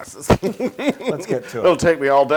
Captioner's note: laugh